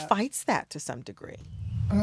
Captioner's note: soundbite of tv show, "somebody somewhere"